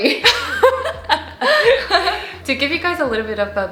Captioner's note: laughing